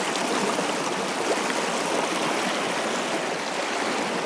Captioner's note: water splashing